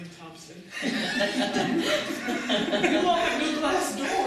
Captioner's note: audience laughter